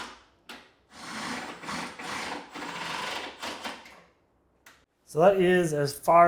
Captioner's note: drill continues to whir